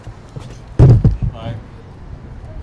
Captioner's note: golpes de cámara